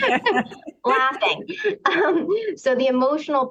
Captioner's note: laughter